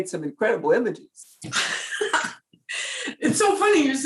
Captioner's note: laughs